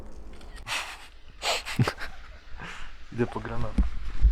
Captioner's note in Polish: śmiech